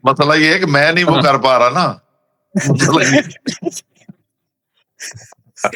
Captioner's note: laughter